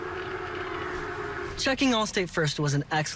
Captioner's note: football on TV